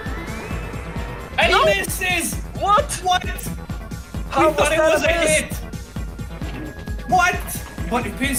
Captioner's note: extremely confused german and italian noises